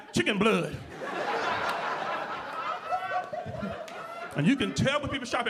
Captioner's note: audience laughing